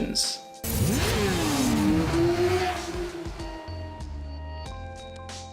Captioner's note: motor engines revving